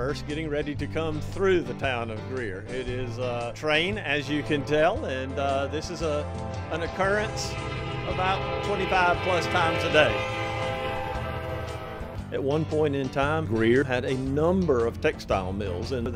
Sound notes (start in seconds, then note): 4.2 train whistle blowing; 10.4 train whistle fades